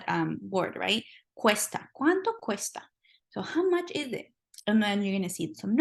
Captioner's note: spanish